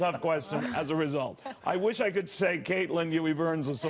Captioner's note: laughter